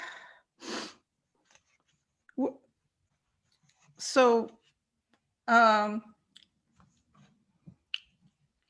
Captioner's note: silence